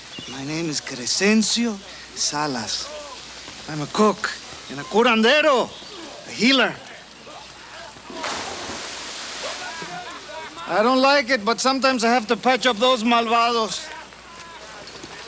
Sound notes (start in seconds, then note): 8.1 water splashes; 13.1 speaks Spanish